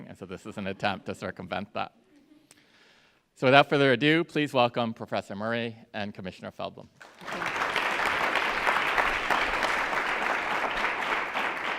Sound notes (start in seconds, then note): 7.0 audience applauds